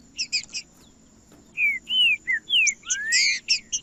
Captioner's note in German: trinca ferro cantando